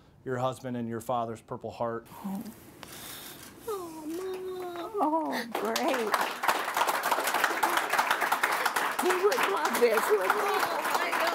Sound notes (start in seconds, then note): 5.3 applause